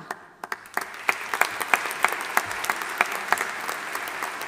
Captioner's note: audience applauding